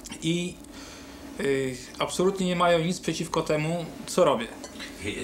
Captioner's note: speaking Polish